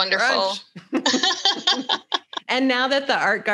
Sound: both laugh

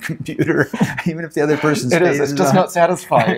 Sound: laughs

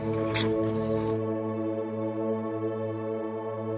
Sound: lips smack

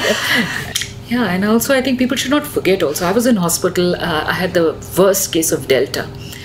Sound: both laugh

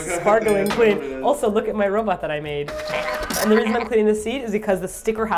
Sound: robot sounds

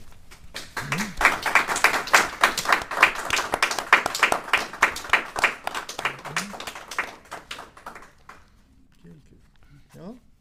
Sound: applause

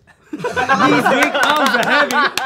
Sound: laughing

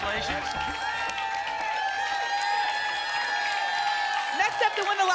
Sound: applause and cheering

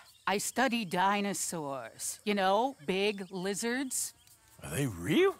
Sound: sighs

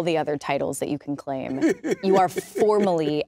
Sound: laughs

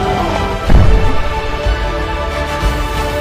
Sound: cannon rumbling; dramatic and rousing orchestral music

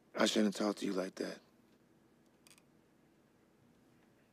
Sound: none

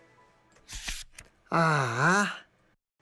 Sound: sigh

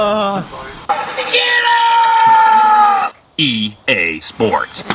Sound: screaming

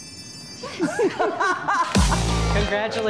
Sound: laughing

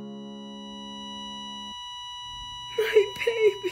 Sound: flat line

